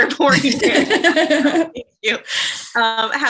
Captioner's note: laughter